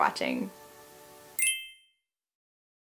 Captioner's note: chime